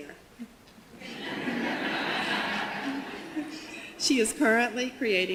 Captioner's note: audience laughter